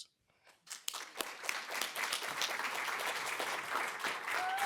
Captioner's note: applause